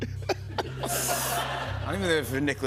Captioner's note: laughter